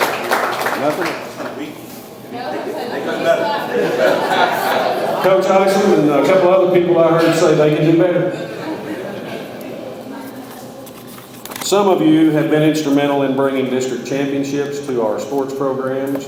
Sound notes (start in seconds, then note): 2.3 audience laughs; 7.0 students laugh